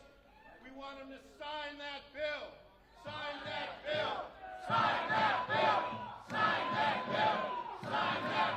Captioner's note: chanting